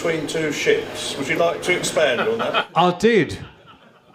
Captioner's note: laughter